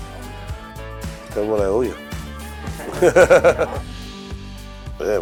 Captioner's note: laughs